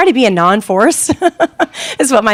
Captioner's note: laughing